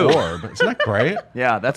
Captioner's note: laughs